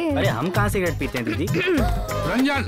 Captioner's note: Clears throat